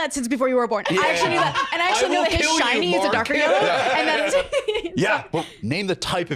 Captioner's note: laughs